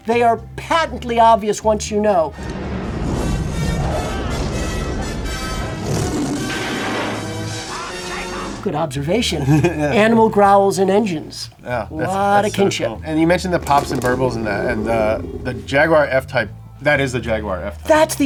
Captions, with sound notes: they are patently obvious once you know. (upbeat music) (engines rev) - I'll catch them! - Good observation. - (chuckles) Yeah. - Animal growls and engines. A lot of kinship. - Yeah, that sounds cool. And you mentioned the pops and burbles in the Jaguar F-Type. That is the Jaguar F-Type.